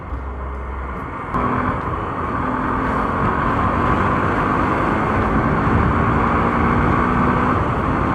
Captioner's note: bike roaring